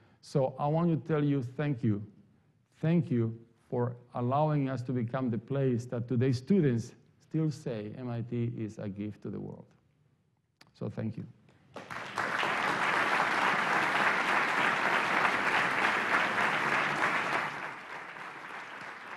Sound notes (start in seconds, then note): 11.7 applause